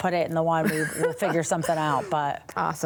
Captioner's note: laughs